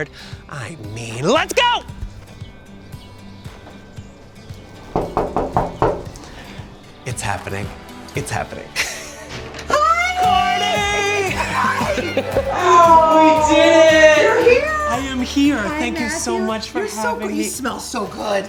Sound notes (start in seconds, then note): 4.8 hand knocking; 11.1 laughs